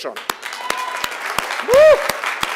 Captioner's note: applause